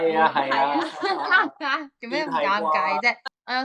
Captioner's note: laugh